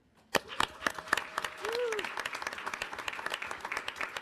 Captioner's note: audience applauding